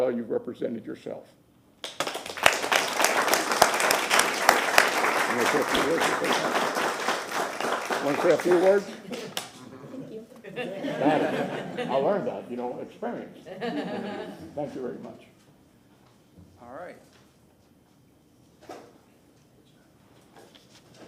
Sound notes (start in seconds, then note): 4.6 applause